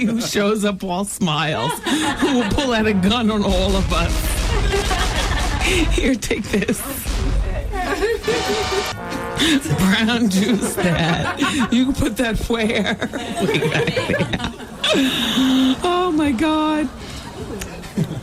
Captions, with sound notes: who shows up while smiles, who will pull out a gun on all of us. [laughter] Here, take this. [laughter] Brown juice, Dad. You can put that flare. [laughter] Oh, my God.